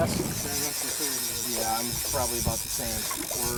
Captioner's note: fish rod rattles